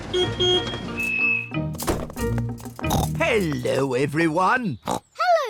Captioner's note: oinks; oinks